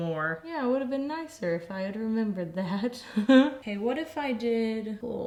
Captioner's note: laughs